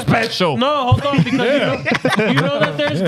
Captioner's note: laughing